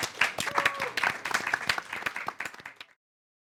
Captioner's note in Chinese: 掌声